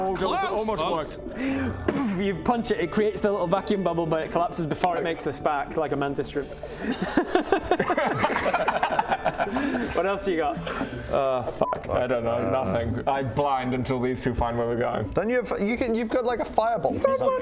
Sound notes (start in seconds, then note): 1.4 boof; 6.8 dumbest-thing-I've-seen-today laughter